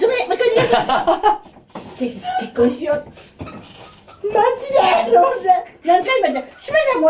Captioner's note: laughs; laughs